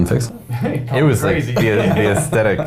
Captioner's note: laughing